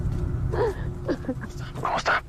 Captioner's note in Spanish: Eli solloza